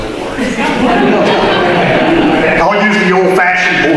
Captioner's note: audience laughter